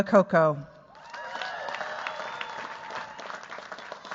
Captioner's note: cheers, applause